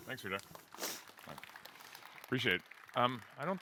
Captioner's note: applause